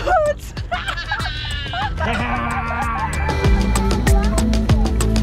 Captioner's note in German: alle lachen; optimistische Musik